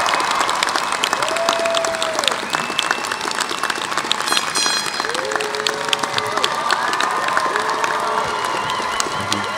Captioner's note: cheers